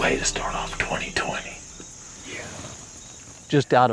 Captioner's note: whispering